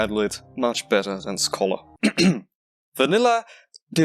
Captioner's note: cough cough